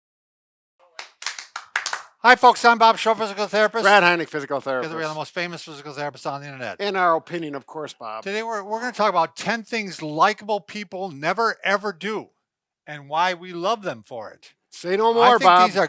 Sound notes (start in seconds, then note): 0.9 both clapping